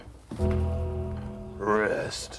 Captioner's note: gong rings